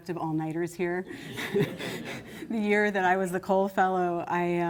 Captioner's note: laughter